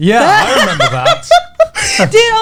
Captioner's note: laughing